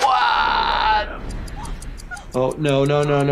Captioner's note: person gasping